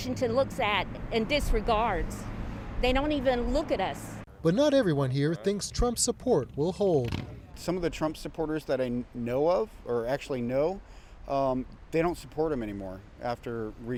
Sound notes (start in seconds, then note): none